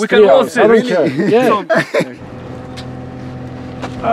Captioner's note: laughter